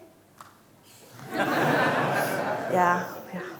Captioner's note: audience laughing